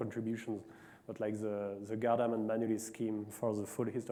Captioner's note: faintly speaking